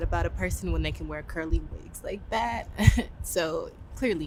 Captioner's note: laughs